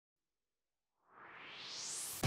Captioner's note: swoosh